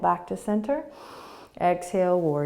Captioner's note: inhaling